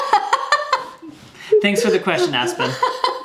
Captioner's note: laughs